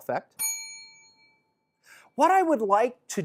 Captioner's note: bell rings